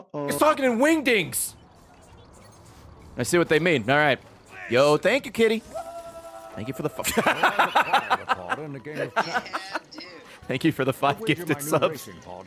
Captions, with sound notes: He's talking in wingdings I see what they mean alright yo thank you Kitty thank you for the-- *laughs* thank you for the 5 gifted subs